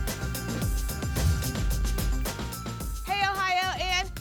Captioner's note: whoosh